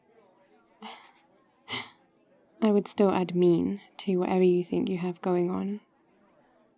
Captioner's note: laughs